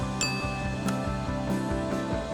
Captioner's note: clink